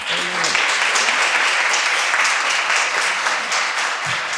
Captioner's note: audience applauding